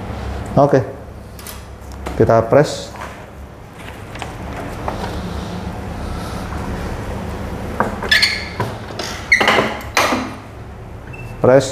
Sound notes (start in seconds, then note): 3.7 covering paper noise; 7.2 press machine noise